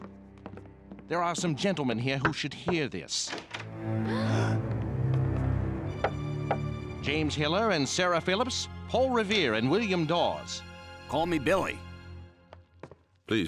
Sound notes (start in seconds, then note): 4.1 gasp